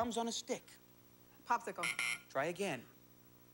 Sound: buzzer

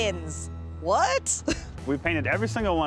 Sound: chuckles

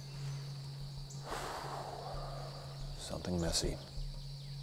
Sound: exhales heavily

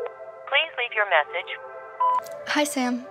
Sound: phone ringing; automated Voice

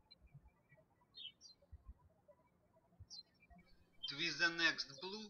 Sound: birds chirping

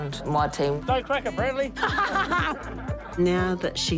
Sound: all laugh

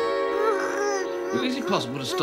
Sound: gurgling

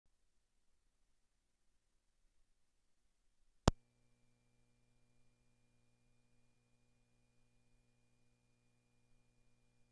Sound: silence

